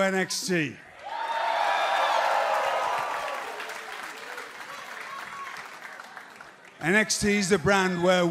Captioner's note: crowd cheering